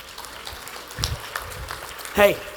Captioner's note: attendees applauding